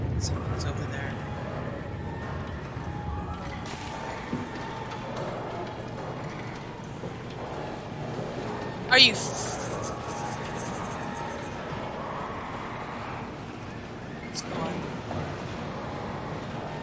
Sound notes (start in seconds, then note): 5.3 mechanical noises continue; 11.8 faint growling; 14.1 quietly